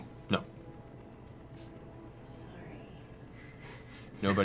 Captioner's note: whispering